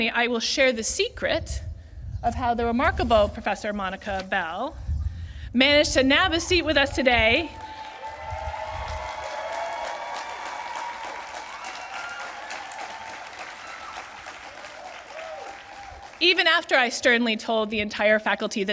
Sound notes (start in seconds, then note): 7.2 applause